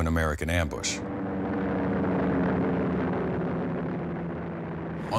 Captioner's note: plane taking off